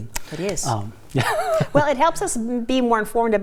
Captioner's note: laughs